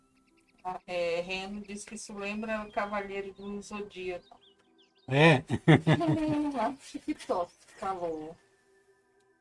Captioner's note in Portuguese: risadas